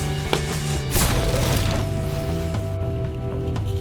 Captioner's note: explosion